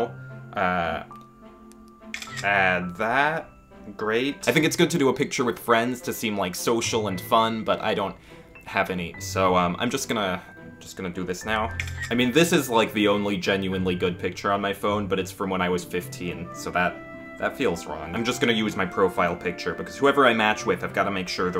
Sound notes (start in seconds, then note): 1.6 click; 11.8 click